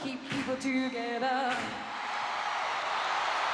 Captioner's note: cheering